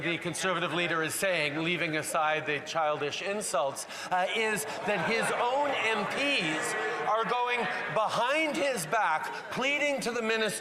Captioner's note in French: voix de l'interprète